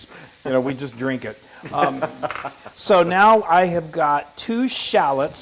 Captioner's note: laugh